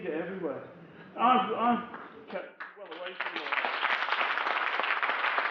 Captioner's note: audience applause overwhelms speech